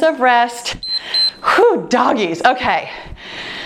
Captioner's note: timer beeps